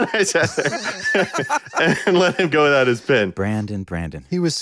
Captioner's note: laughing